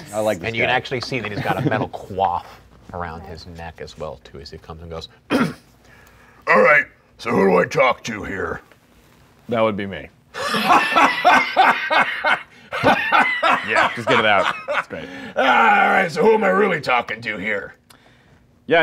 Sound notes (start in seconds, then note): 5.3 clearing throat; 10.3 laughing